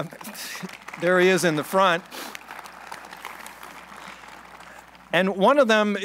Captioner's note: applause